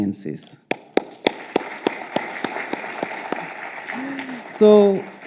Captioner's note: speaker and audience applauding